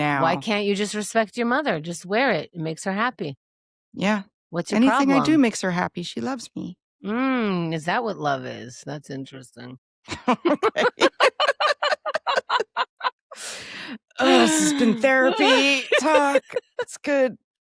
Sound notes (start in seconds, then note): 10.1 laughing